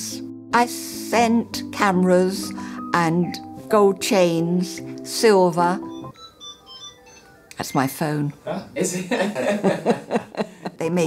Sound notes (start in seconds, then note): 5.8 phone Ringing; 8.9 laughter